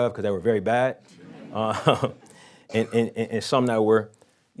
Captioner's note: audience laughing